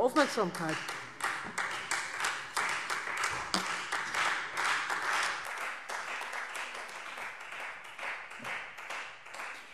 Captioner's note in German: Beifall Freie Demokraten